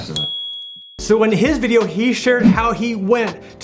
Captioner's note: bell rings